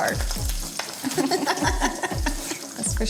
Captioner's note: laughter